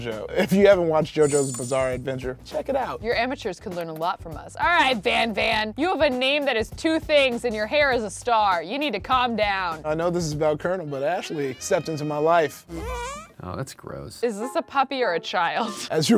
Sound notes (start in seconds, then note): 12.7 farts; 15.5 laughs